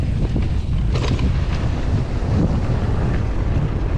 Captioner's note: bike ratchets; bike rattles